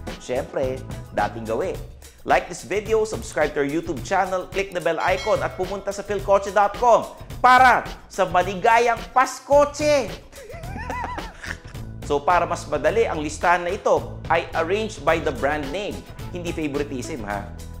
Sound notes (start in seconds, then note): 10.3 laughs